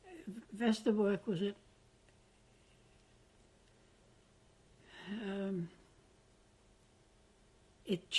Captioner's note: pauses for 6 seconds